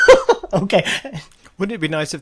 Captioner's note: laughing